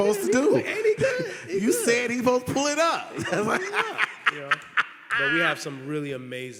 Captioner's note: laughing